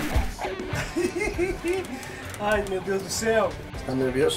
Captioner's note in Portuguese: risos